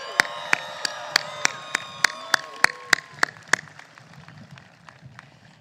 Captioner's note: applause